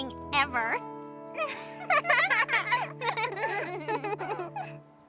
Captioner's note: both laugh